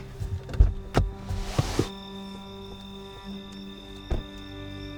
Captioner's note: door clicks